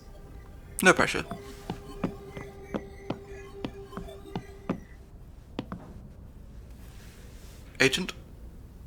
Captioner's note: acrobatic laser dodging sounds